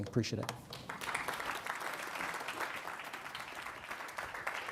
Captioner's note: audience clapping